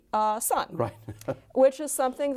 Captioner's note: laughs